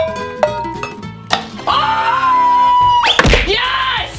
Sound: celebrates loudly

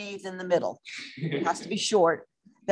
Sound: laughter

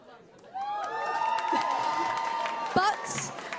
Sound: cheers

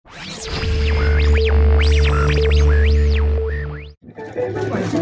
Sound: televisions emitting electrical static; upbeat music

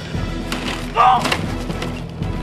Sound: groan

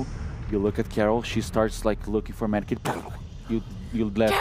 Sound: puff

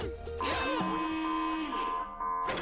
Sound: all chanting; alarm blaring

